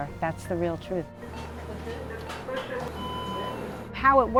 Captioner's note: devices beeping